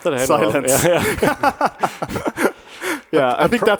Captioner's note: panelists chuckling